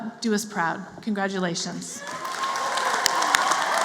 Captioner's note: applause